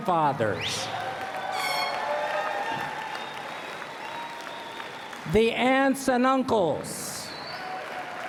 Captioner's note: cheering